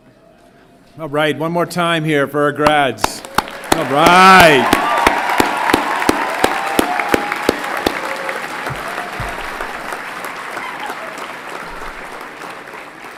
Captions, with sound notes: - Alright, one more time here for our grads. Alright! (everyone clapping and cheering)